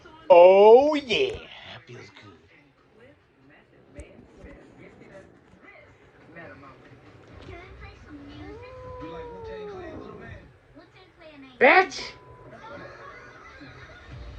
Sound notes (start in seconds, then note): 7.8 growls